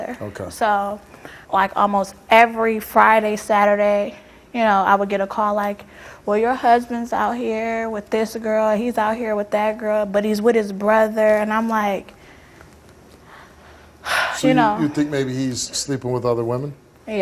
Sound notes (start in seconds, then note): 13.5 sighs